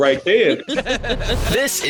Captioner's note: laughing